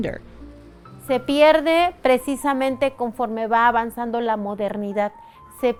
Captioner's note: speaking foreign language